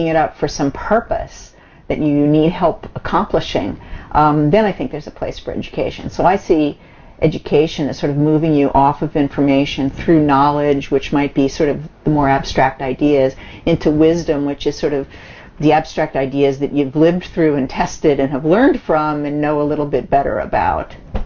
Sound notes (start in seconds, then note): none